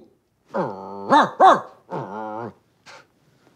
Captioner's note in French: jappements et grognements